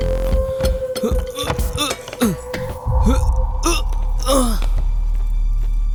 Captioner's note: grunts